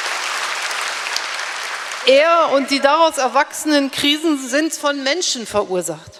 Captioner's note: applause; speaking in German